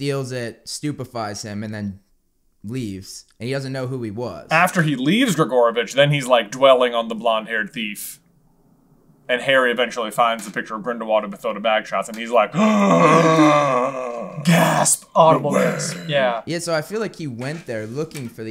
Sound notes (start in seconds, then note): 12.5 gaaaaaaaaaaasp; 15.5 deep and gruff